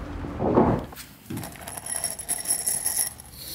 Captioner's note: metallic clanking